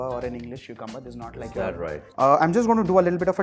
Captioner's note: thick accent